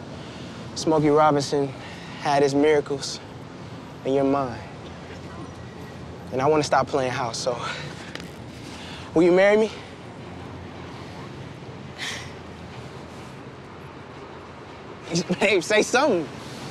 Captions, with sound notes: Smokey Robinson had his miracles, and you're mine. And I wanna stop playing house. So will you marry me? (Tiffany gasping) Babe, say something.